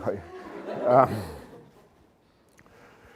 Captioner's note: laughter